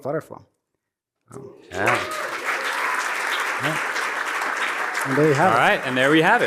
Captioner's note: applause